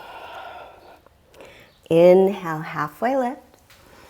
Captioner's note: deep breathing sounds